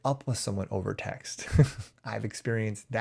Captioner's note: chuckles